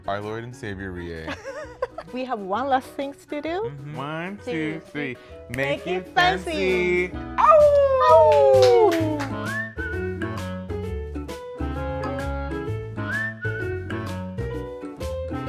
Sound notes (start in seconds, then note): 1.3 giggling; 7.4 both howling; 9.0 cheerful music